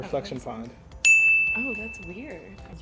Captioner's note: bell chimes